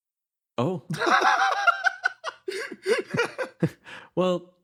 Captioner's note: laugh